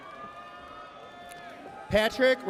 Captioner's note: audience cheers